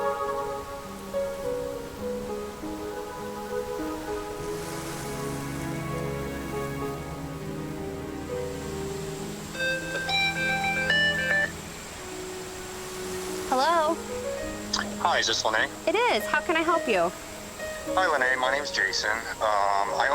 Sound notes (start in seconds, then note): 9.6 phone rings